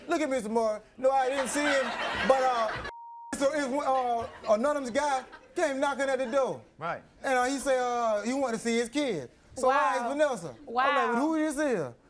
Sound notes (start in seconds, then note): 2.9 beep